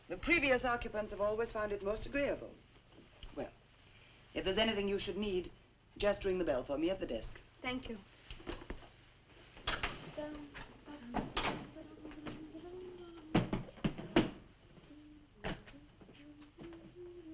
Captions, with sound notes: The previous occupants have always found it most agreeable. Well, if there's anything you should need, just ring the bell for me at the desk. - Thank you. (Nan humming)